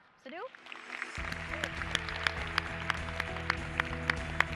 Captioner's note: applause